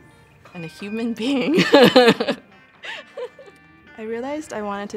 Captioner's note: laughter